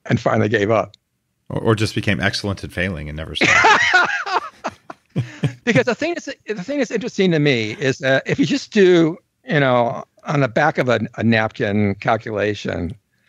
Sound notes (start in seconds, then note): 3.4 laughs uproariously